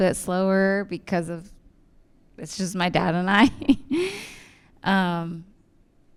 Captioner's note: chuckles